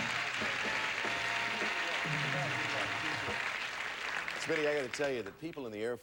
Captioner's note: audience applauding